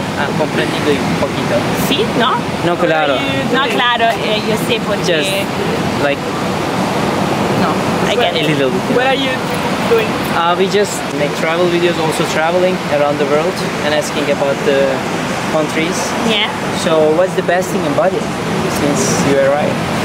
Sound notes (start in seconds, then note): 0.1 speaking Spanish